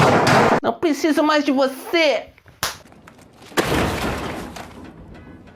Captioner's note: slap and noise